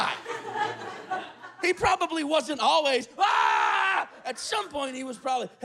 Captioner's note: screams